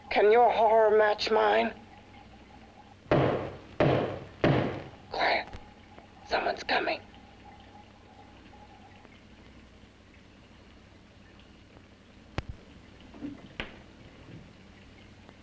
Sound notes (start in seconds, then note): 3.8 banging on door; 8.3 liquids bubbling